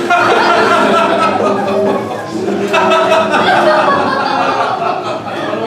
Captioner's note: Nick and Seagull laughing